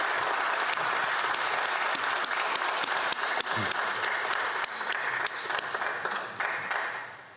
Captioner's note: speaking FRENCH; applause